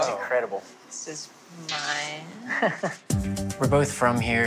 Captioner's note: laughs